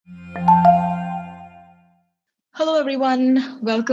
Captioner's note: soft welcome tone